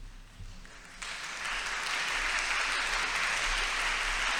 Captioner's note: audience applauds